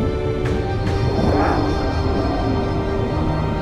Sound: grunting

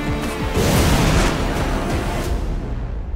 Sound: whooshing sound

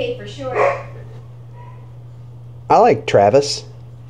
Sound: dog barks

